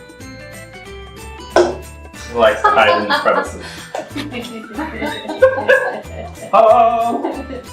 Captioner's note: both laugh